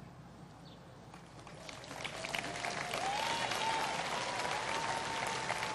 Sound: applause

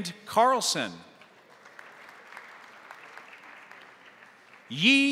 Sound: crowd applauding

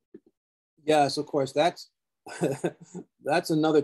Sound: laughs

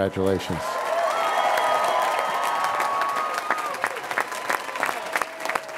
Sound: audience applauds and cheers

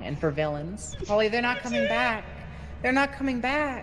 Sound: cries

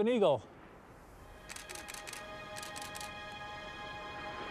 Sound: camera snapping

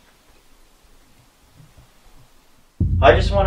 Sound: thumping

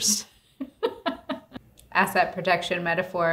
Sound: laughing

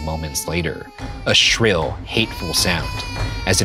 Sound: baby wailing

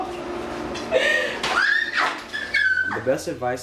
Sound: laughing; squealing

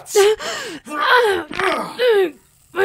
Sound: his body drops to the floor as she crouches, her skin smoking and hissing

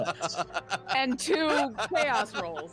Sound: laughing

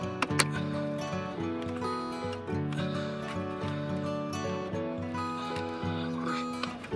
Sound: breathing

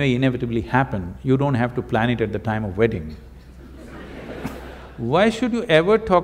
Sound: laughter

